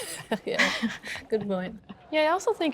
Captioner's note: laughs